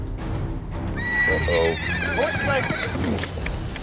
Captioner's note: horse brays